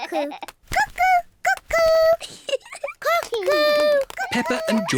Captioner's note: laughs; giggles